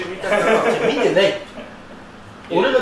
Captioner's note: laughs